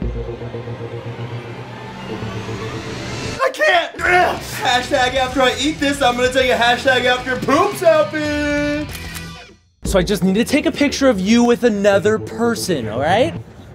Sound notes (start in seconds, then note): 0.1 intense music; 8.8 camera snaps